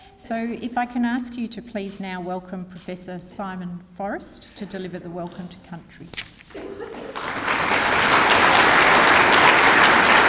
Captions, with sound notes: So, if I can ask you to please now welcome Professor Simon Forrest to deliver the Welcome to Country. (APPLAUSE)